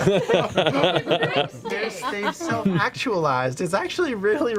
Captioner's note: laughter